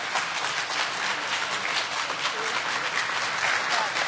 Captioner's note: applause